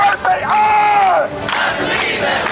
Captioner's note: chanting